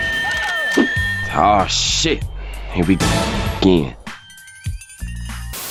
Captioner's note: THPS Special Sound Effect